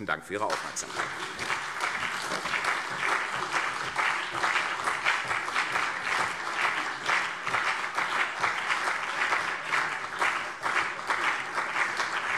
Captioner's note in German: Anhaltender Beifall CDU und BÜNDNIS 90/DIE GRÜNEN